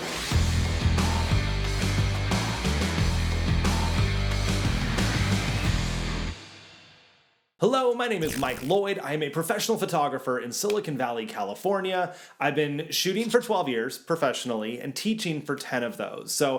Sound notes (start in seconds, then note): 0.0 rock music; 8.2 shutter clicks